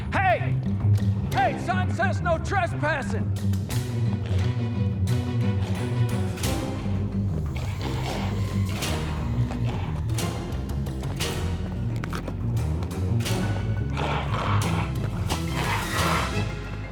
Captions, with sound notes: Hey! Hey, son. Says no trespassing. (dramatic music) (figure growling) (dramatic music continues)